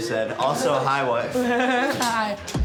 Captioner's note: laughs